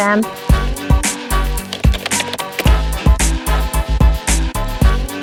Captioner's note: keystrokes tapping